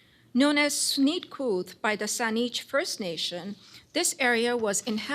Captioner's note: non-english